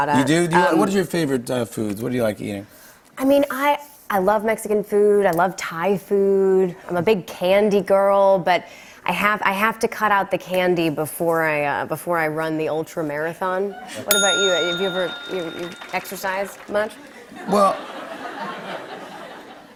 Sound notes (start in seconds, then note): 14.1 ding!